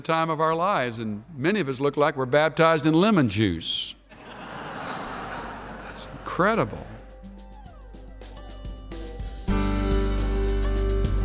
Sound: laughter

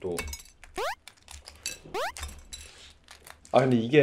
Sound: crack, crack

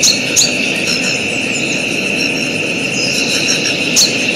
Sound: birds chirping

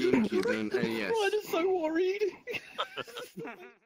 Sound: laughter

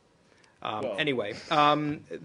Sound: laughter

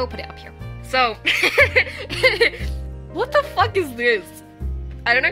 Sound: laughing

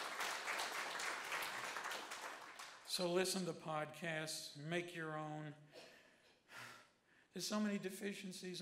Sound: applause

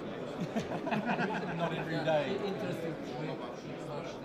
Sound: laughing

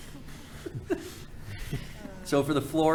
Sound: panel chuckling

